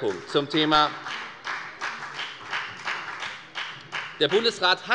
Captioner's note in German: Beifall bei der FDP